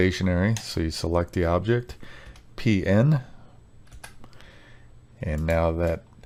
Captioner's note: keyboard clacking